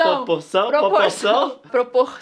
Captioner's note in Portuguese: risos